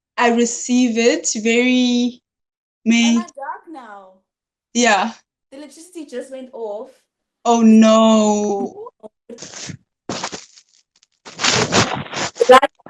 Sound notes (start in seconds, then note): 11.2 shuffling